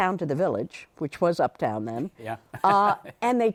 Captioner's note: laughs